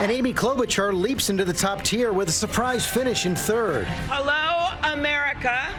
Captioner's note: cheers and applause